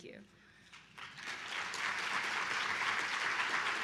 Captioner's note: applause